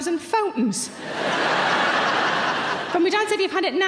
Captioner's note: audience laughs